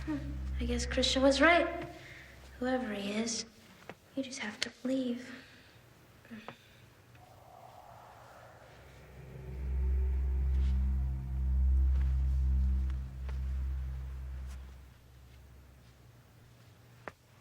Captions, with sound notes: Hmm, I guess Christian was right, whoever he is. You just have to believe (sighs). - [Ghostly Voice] Marlee! (ominous ambient tones)